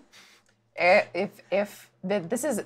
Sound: stammers

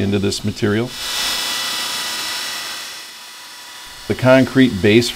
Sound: machine noise

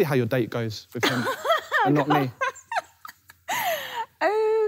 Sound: laughing

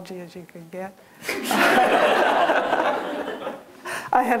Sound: laughter

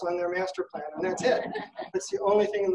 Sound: audience laughing

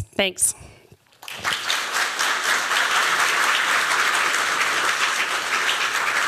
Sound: applause

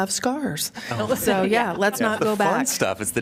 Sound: laughter

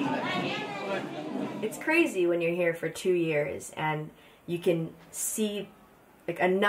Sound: crowd talking

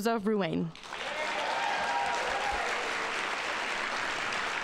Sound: audience applauding

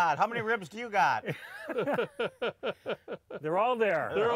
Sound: both chuckling

